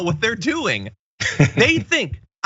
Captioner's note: laugh